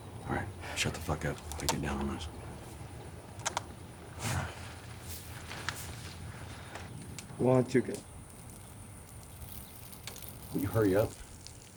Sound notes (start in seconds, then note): 8.0 urination trickling